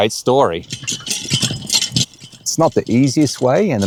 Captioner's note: chain rattling